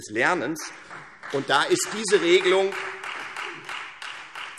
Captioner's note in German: Beifall Freie Demokraten